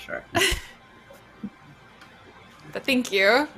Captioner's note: laughs nervously